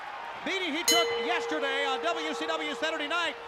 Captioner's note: bell ringing